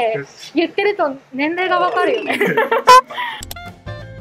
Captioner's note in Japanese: 苦笑